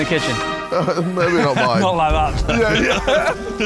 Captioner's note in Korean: 웃음